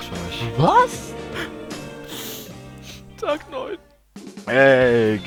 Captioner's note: sob